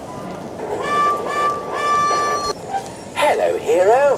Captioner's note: edward whistles